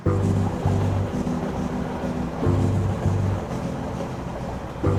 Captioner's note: train running